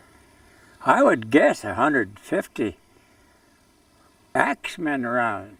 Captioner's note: voiceover